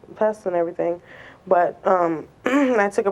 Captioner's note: clears throat